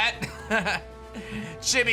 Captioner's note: chuckles